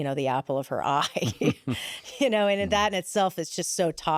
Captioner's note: laughs